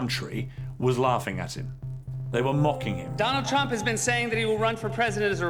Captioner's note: beeping